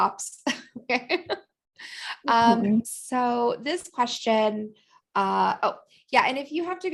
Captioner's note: laughter